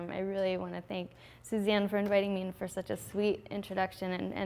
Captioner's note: none